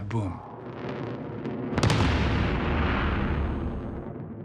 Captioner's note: sonic boom